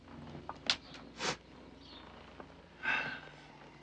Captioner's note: woman sniffs; Russ sighs